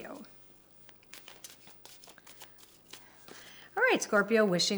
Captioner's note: cards shuffling